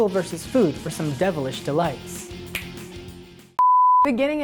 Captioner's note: snaps